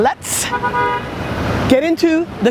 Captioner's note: car honks